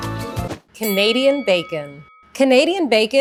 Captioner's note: bell rings